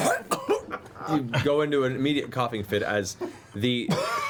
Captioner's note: all laugh; coughs; coughs